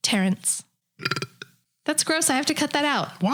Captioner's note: burps